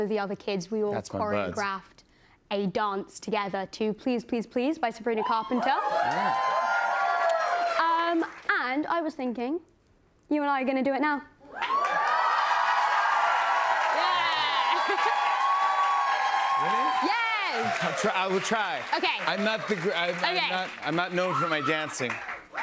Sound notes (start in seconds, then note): 5.3 cheers and applause; 11.3 cheers and applause; 13.9 laughs